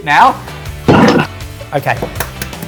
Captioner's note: laughs